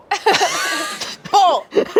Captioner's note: everyone laughs